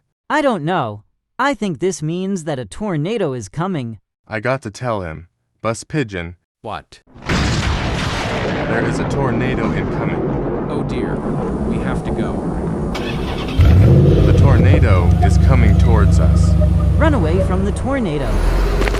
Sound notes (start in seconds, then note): 7.2 lightning strikes; 12.9 bus engine turns on; 18.1 bus drives away